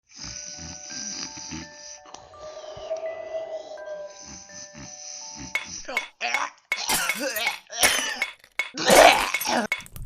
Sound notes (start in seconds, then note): 2.7 snoring; 5.9 choking; 8.8 spits